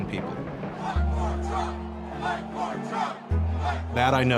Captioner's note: crowd chanting